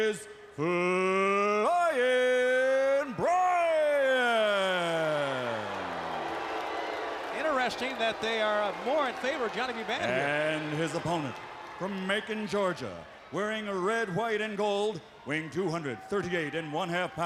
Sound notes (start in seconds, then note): 4.9 crowd cheering